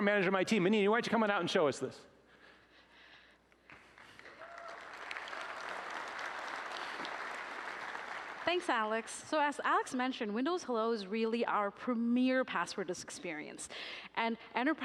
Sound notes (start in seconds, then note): 7.5 applause